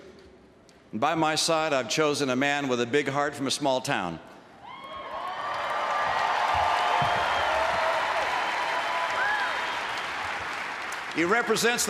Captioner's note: applause